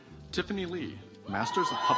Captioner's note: audience applauds